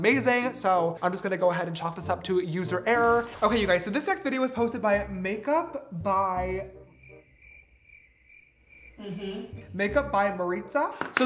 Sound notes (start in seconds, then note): 6.8 crickets chirping